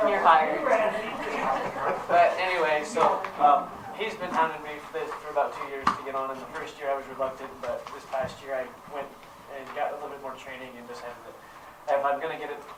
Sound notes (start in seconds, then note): 1.2 laughter